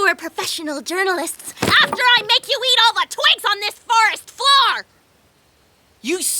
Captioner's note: none